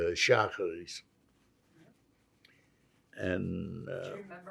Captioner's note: non-english